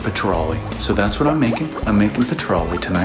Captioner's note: fish plopping